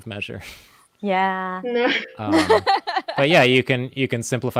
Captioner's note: laughs